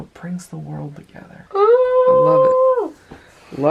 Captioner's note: cheering